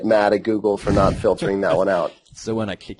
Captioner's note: laughs